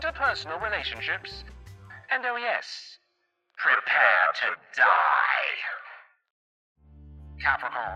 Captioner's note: demonic voice